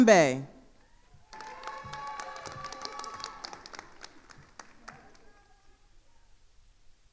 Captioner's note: attendees cheering and applauding